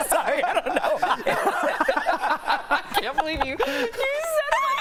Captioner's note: laughter